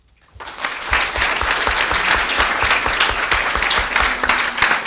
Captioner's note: audience clapping